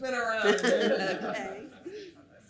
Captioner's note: laughs